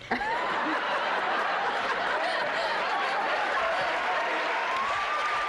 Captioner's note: laughter